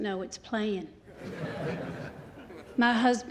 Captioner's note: laughter